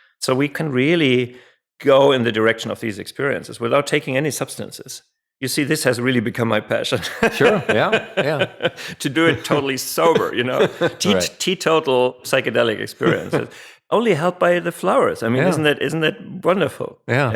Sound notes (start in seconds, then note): 7.0 laughs